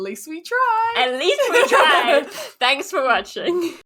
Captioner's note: both laugh